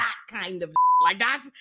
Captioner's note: beep